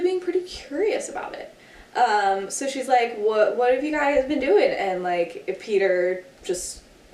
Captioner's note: none